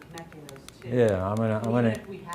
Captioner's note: clicking through slides